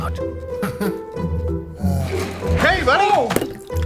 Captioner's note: chuckles satisfyingly